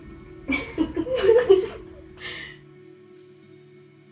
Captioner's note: all giggle